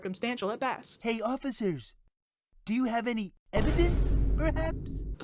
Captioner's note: with vine boom